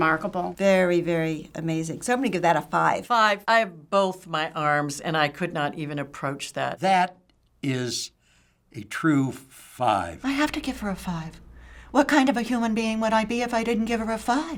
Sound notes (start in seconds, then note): none